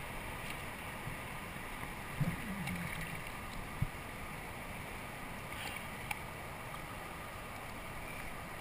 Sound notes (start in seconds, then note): 2.2 splash, splash!